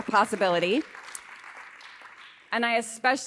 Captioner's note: audience applauding